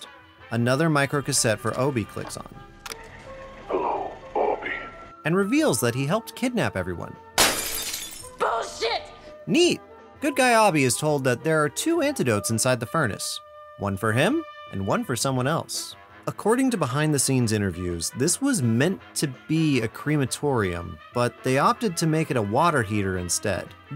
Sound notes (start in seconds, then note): 7.3 glass breaking